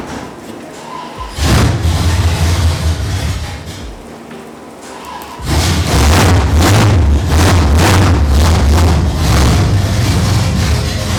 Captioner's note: annoyingly starting up his car